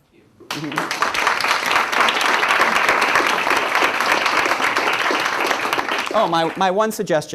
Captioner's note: clapping